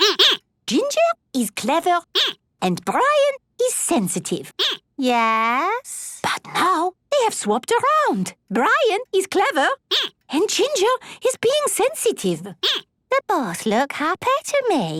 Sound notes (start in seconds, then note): 5.7 whispering; 12.6 squeaking